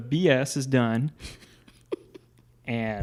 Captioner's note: laughing